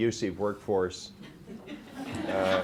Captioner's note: laughter